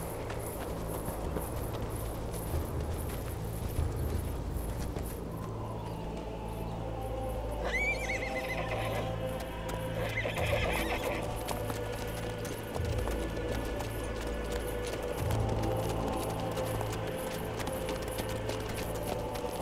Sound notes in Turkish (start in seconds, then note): 7.6 At kişneme sesi